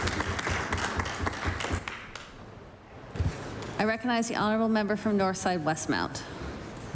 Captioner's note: applause